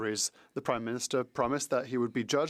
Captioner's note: speaking French